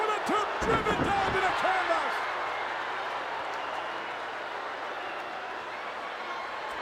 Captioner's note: crowd chattering